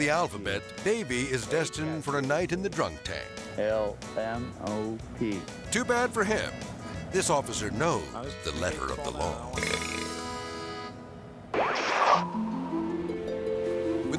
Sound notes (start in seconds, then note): 9.5 drunk belching; 9.9 harmonic music; 11.5 screen static; 12.8 tranquil music